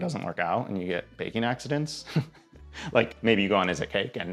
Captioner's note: chuckles